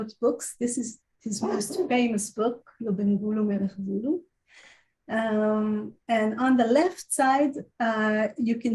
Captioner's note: Hebrew